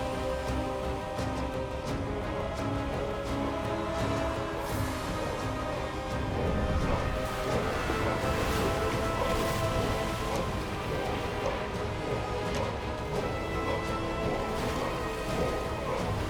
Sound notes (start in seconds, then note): 6.5 chanting